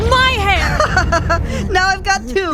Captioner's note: laughing